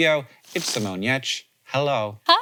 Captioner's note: graphic rustling